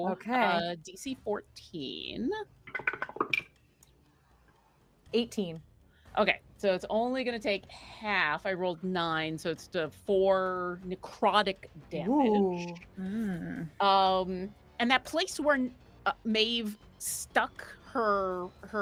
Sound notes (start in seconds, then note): 2.7 dice rolling